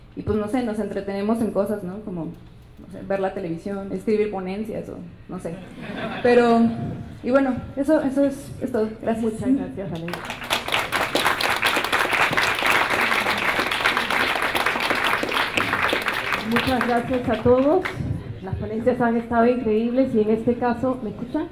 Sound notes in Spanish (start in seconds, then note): 10.0 Aplausos